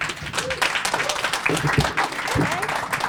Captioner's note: applause